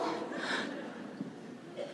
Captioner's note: laughter